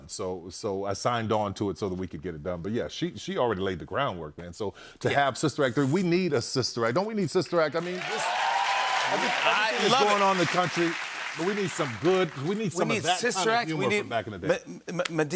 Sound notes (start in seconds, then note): 7.7 cheers and applause